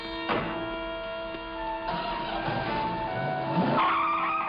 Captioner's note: tires squealing; engine starts